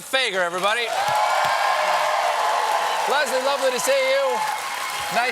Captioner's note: cheers and applause